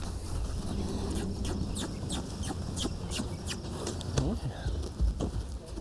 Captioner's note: squeaky kisses